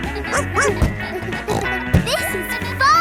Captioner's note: snorts; barks